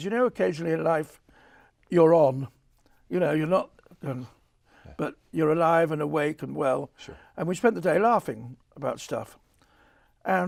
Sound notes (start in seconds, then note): 4.7 sighs